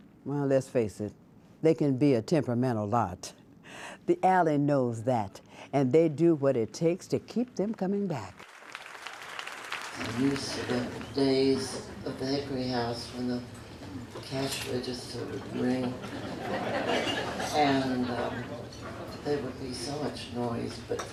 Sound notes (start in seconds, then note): 8.3 applause